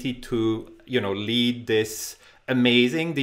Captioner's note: none